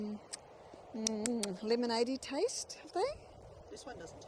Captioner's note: mouth smacking